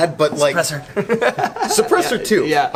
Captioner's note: laughing